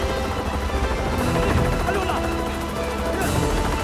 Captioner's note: Korean